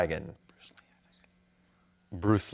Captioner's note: whispers